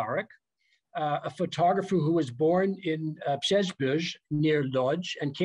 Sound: non-english speech

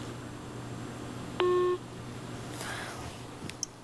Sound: phone beeps, call disconnects

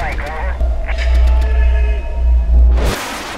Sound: yells

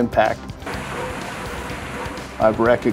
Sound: water spraying

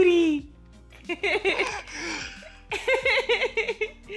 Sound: laughing

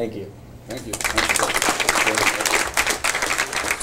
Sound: applause

